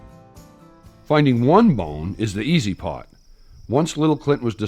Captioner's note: voiceover